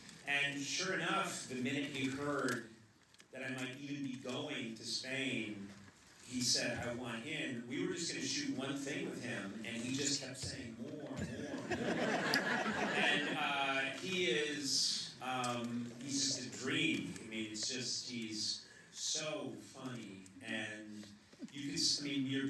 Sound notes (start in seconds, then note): 11.2 laughter